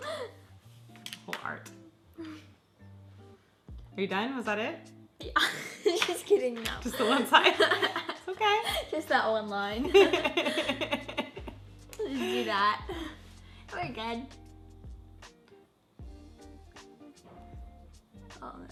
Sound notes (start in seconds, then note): 0.1 chuckles; 6.8 laughs; 16.0 soft electronic music